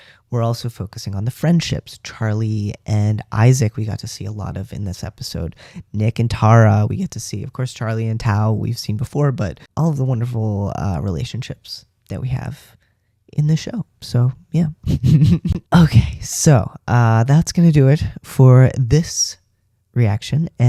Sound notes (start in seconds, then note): 14.8 laugh